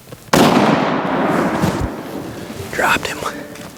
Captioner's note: gun shot